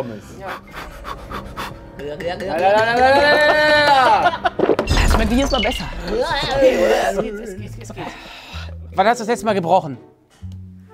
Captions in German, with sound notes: (Schnelle Atemstöße) (Sie machen gluckernde Geräusche.) (Schlucken) Es schmeckt mir jedes Mal besser. Uuuahhhh! - Es geht, es geht. Wann hast du das letzte Mal gebrochen?